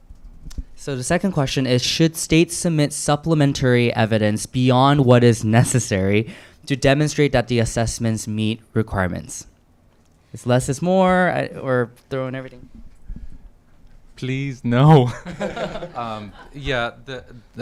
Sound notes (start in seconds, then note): 15.0 chuckles